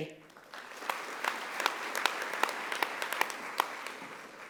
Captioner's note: audience applauding